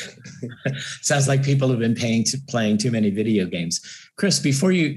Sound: laugh

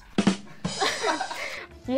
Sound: laughs

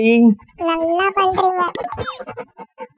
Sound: sarcastic

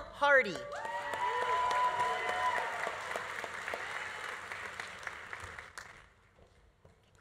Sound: audience cheering; audience applauding

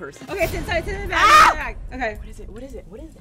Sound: screams

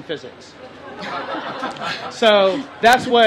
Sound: laughter

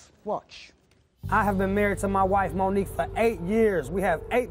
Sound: none

